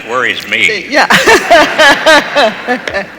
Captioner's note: laughs